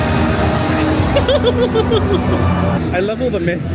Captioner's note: dramatic music plays; giggles